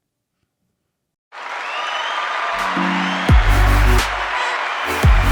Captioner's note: cheers